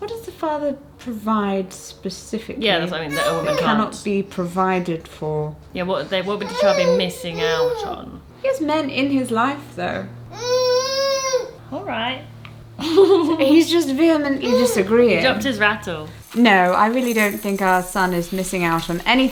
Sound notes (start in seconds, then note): 6.1 murmurs; 10.4 whining